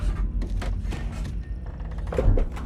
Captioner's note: door creaks